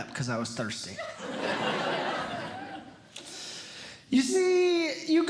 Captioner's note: audience Laughing